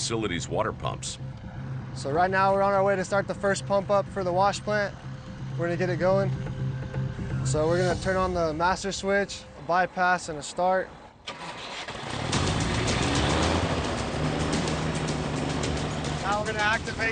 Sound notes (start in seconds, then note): 11.3 motor turning over